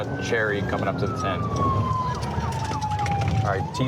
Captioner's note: sirens